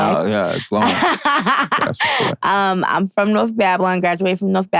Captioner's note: laughing